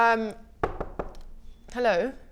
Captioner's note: knock knock knock